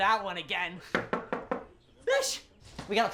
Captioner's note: fist knocking